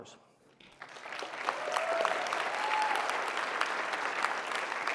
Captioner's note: applause and cheering